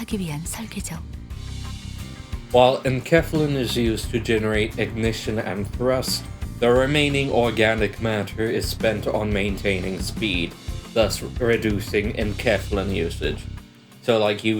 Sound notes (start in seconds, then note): 10.8 chuckling!